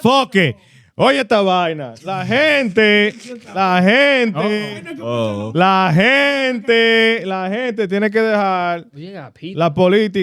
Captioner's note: speaking In Foreign Language